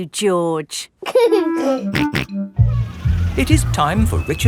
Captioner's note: giggling and snorting